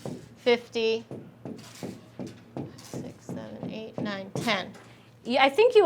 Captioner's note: stylus clacking